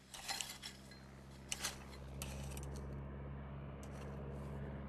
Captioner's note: plane approaching